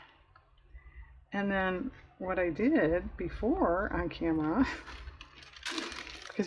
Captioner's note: laughs